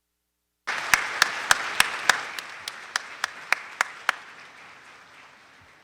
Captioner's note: audience clapping